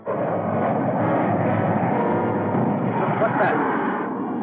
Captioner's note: engines roaring